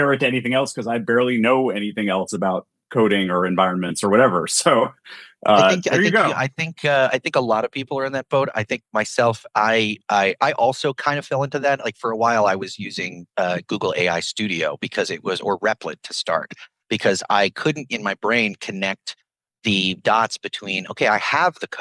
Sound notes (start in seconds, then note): 3.0 chuckles